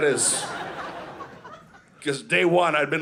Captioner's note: audience laughing